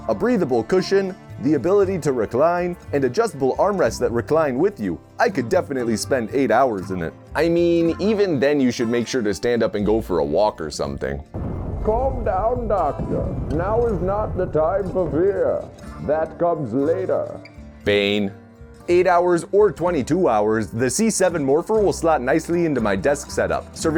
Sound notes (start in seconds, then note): 11.3 explosions, Chicago Guy through wall